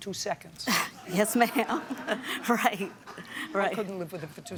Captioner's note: laughs